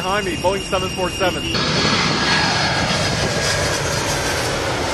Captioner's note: engine roaring